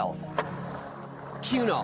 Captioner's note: skateboard wheels roaring